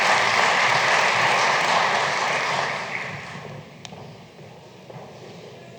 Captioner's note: applause